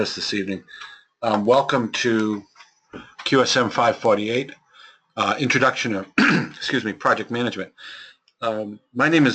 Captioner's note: cough